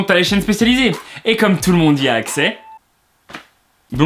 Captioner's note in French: sarcastique